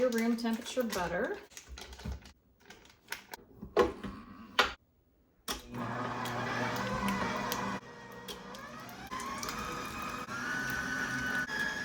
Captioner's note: KitchenAid working